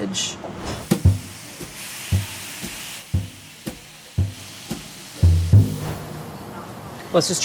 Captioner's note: food sizzles